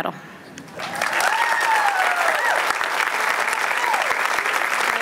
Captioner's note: applause